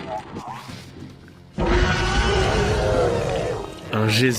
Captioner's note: monstrous noises